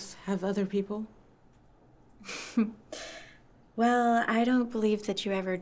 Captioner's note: laughs